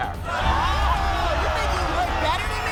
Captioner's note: audience oohs